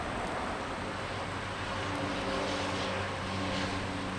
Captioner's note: wind blowing